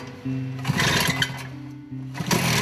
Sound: engines starting

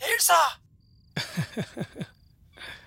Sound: chuckling

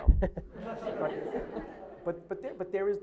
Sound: laughter

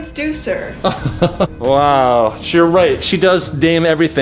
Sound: laughs

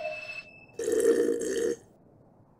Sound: slurping coffee

